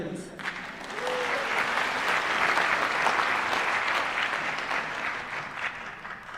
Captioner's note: applause